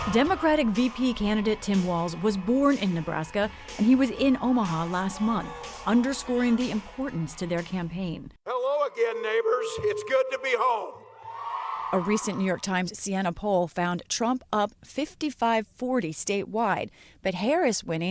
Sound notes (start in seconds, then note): 12.0 cheering